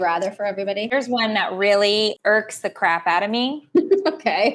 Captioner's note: laughing